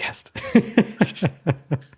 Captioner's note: laughing